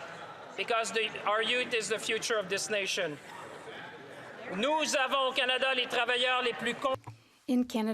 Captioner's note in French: voix de l'interprète